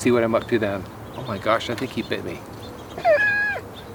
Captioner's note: laughs